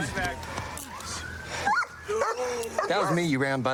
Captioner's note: dog barks